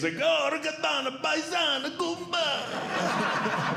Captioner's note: non-English Speech; audience Laughing